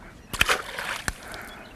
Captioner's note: splash